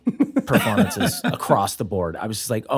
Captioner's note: laughter